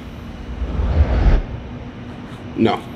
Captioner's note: whooshing